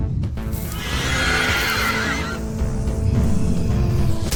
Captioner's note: Screech